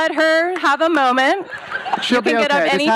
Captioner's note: audience laughs